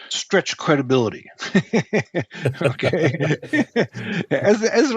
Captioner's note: chuckling